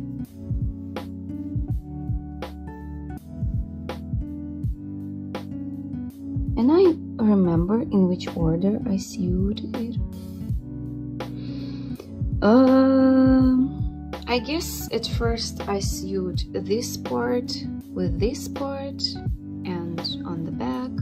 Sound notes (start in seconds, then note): 11.4 deep sight